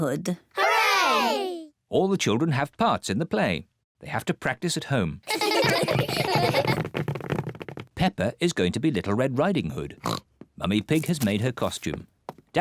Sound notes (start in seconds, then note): 5.2 children laughing; 10.0 oinks